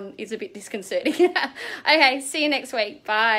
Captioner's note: laughing